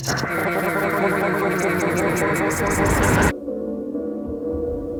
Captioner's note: mangled and distorted voice clips